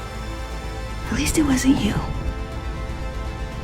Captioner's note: voiceover